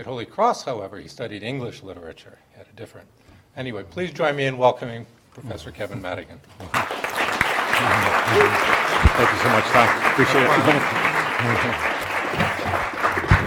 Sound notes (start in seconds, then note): 6.6 audience applauding